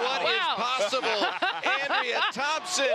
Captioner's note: joyous laughter